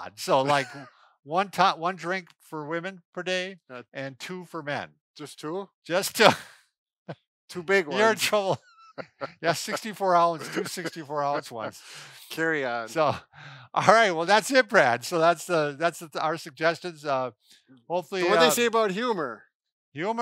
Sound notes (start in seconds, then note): 7.6 laughs; 12.5 chuckles